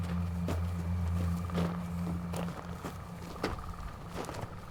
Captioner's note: somber music; footsteps shuffling